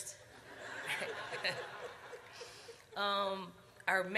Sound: audience laughs

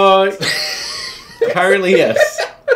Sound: laughing

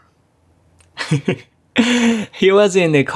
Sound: chuckles

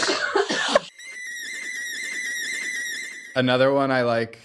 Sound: sound effect playing

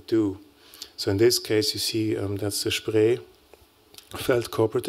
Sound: non-english speech

